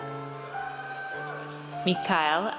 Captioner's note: audience cheers